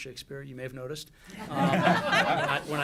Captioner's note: laughter